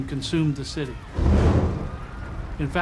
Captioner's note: roaring flames